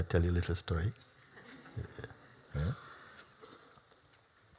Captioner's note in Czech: Smích